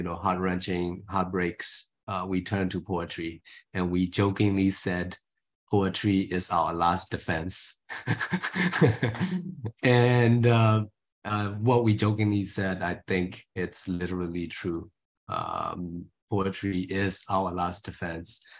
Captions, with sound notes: heart-wrenching heartbreaks, we turned to poetry, and we jokingly said, - "Poetry is our last defence." - [He laughs] And what we jokingly said, I think it's literally true. Poetry is our last defence...